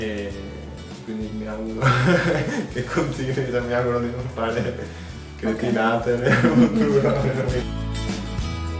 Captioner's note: laughing